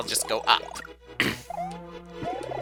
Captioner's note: clears throat